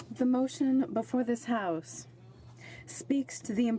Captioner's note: speaking French